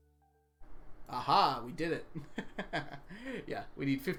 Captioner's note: laughs